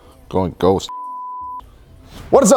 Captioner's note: beeping